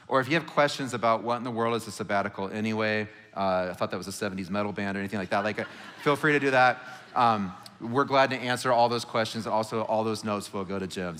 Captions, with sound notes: Or if you have questions about what in the world is a sabbatical, anyway? I thought that was a '70s metal band or anything like that. (congregation laughing) Like, feel free to do that. We're glad to answer all those questions, and also all those notes will go to Jim.